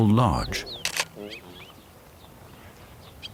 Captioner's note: camera clicks